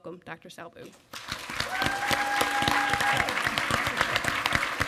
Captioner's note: applause